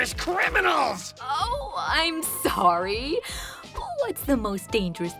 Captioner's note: sarcastically